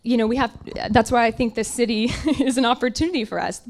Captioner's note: laughs